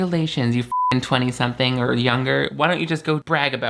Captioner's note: beep